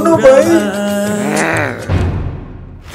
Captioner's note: angry grr